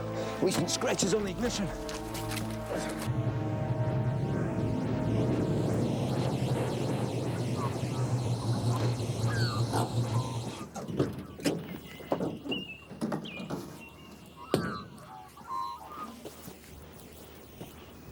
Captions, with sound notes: There's some scratches on the ignition. (van engine rumbling) (birds chirping)